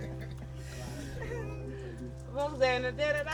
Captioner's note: speaking in local language